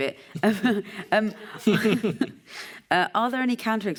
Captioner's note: laughs